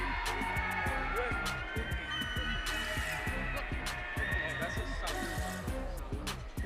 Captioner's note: audience cheering